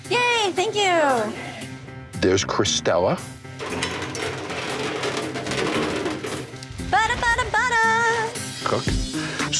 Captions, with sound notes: - Yay, thank you. (suspenseful music) - There's Cristella. (trolley clanking) - Butter, butter, butter. - Cook.